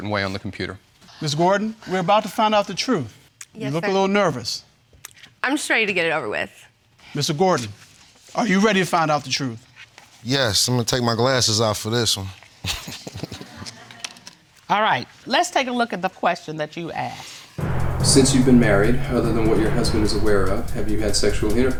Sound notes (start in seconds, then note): 12.7 all laughing; 17.6 dramatic music playing